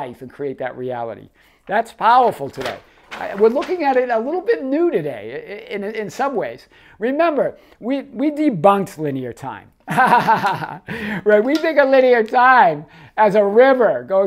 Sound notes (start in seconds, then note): 9.9 laughing